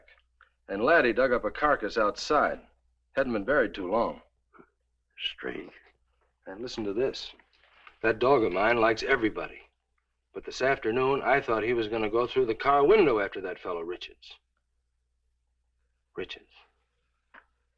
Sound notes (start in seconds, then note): none